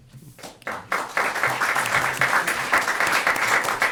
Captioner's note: applause